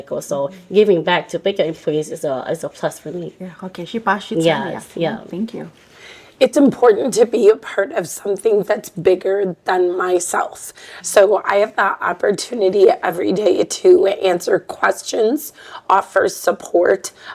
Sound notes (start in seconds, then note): 3.4 Speaking in Hmong